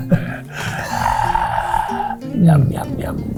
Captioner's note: exhales heavily; both laugh